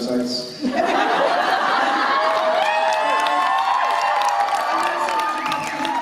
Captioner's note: laughter and cheers